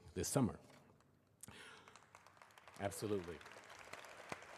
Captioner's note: applause